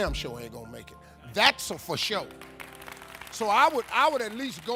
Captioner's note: audience clapping